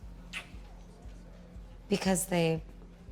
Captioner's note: lips smooching